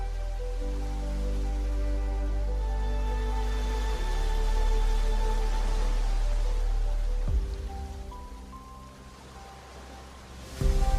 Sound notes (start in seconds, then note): 0.1 instrumental music; 5.8 ocean waves